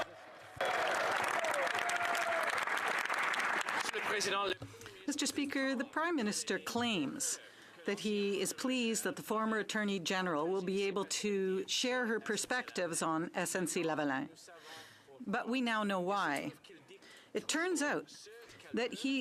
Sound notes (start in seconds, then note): 2.1 speaking French; 4.1 some Applause